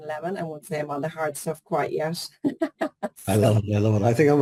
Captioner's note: laughs